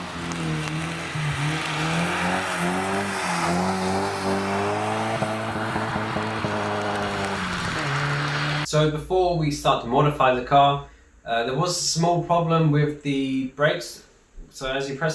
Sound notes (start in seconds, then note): 5.0 rev limiter bashes